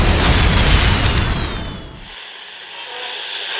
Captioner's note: explosions; bombs whistling; garbled radio tuning